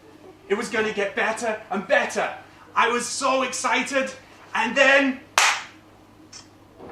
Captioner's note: boom